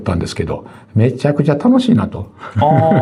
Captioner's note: laughs